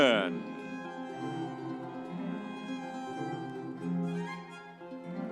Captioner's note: audience applauding